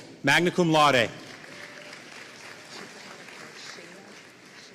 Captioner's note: audience applauding